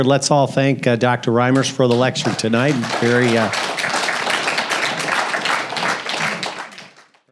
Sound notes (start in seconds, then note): 3.9 applause